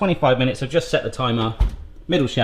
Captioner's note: oven door closes